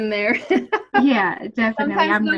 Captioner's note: laughs